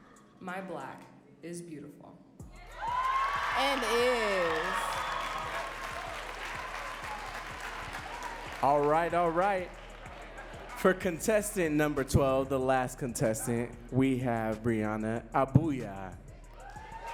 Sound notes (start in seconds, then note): 2.9 audience cheers